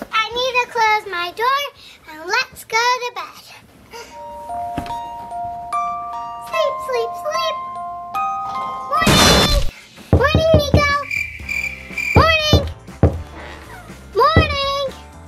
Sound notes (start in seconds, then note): 3.9 lullaby plays; 9.0 loud crash; 10.1 knocking; 10.9 crickets chirping